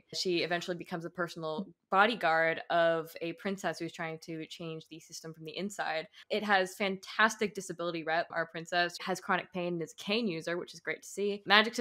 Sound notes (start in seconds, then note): none